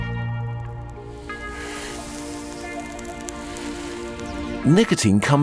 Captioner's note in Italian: crepitio della sigaretta